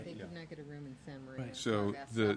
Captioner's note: multiple voices speaking